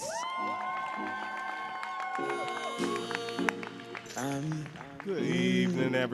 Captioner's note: audience cheering and applauding